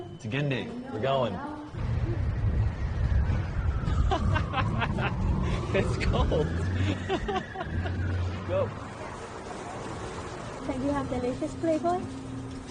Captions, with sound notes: "Tugenda." We're going. (siren wailing) (laughs) It's cold! Let's go.